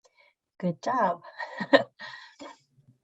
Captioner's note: laughs